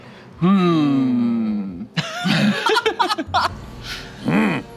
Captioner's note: laughs